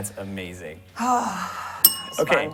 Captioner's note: bell rings